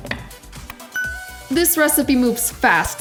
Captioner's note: tapping; chimes